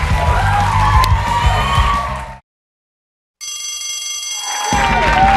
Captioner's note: bell rings; cheers and applause